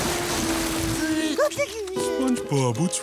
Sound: crying

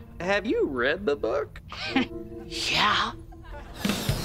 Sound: chuckles

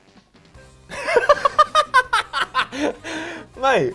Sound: both laughing

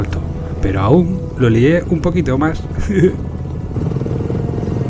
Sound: laughs

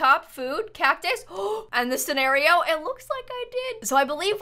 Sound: gasps

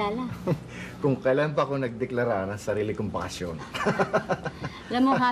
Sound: laughs

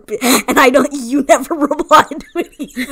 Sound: laughs

